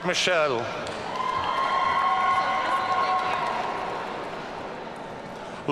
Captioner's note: audience cheering